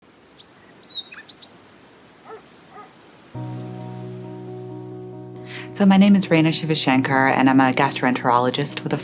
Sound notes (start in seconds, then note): 2.2 birds chirping, dog barking